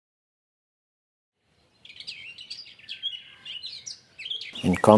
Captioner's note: birds singing